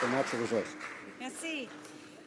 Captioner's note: some Applause